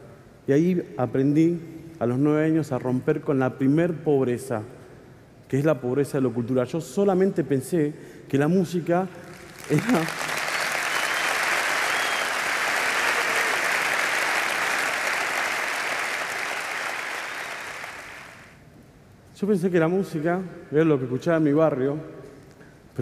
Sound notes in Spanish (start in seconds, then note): 9.6 Aplausos